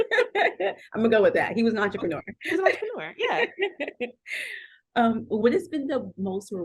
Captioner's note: laughter; laughter